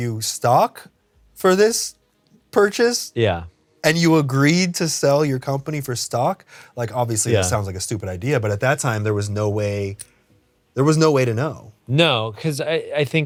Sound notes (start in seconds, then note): none